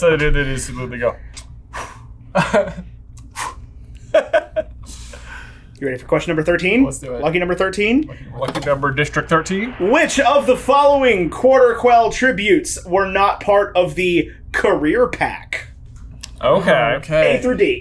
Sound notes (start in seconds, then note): 2.1 air whooshing; 4.6 laughing